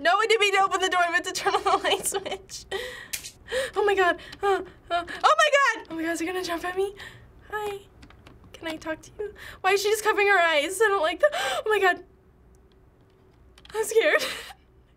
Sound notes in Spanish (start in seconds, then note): 3.1 Interruptor de la luz hace clic; 3.1 Jadeo